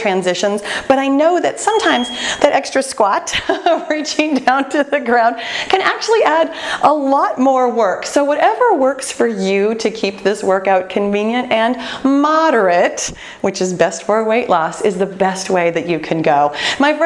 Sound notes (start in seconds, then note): 3.1 laughing